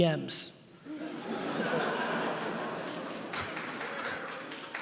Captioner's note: laughing